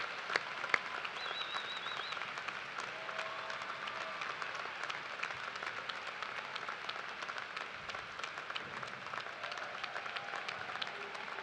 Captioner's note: cheers and applause